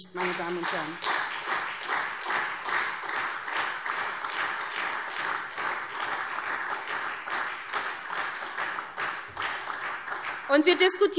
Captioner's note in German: Beifall SPD